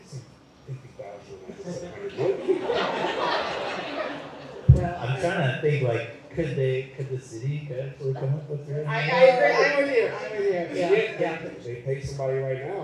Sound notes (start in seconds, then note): 3.1 laughter